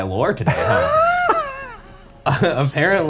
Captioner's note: Shane laughs